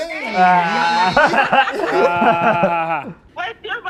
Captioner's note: all laughing